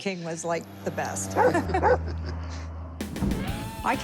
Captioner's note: laughter